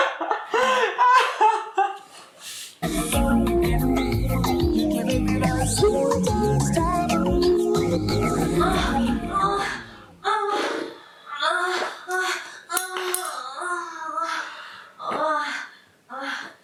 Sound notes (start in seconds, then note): 0.0 laughs; 10.3 moaning